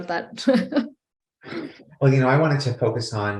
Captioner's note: laughing